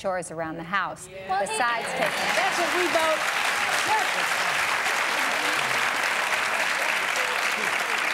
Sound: applause

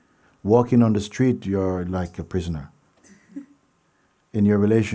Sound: laughter

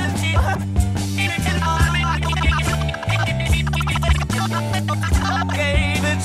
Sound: dial-up internet

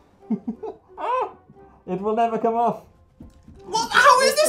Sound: shrieks in pain

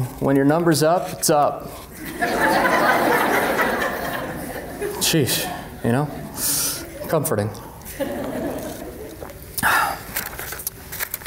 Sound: laughter

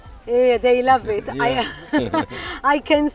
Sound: chuckles

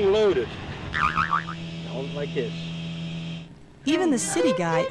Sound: boing

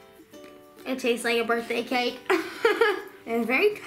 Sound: laughs

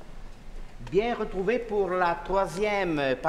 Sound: speaking french

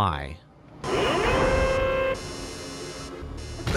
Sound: alarm claxons

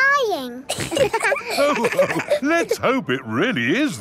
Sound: all laughing

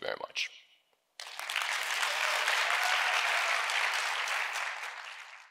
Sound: audience cheering

